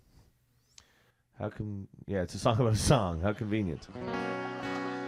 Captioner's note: laughter